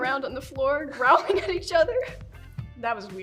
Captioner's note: laughing